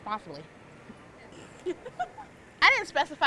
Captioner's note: staff laughs